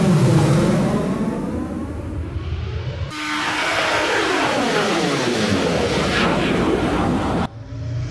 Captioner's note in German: Düsenflugzeuggeräusch